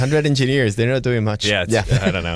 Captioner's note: laughter